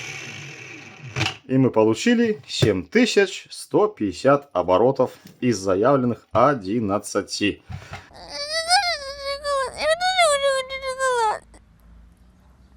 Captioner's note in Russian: плач